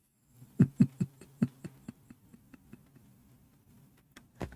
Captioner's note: Ketawa